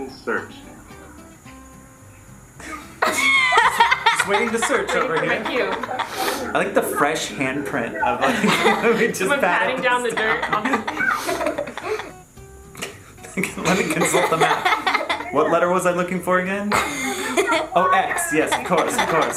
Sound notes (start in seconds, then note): 2.9 laughs loudly; 13.2 laughs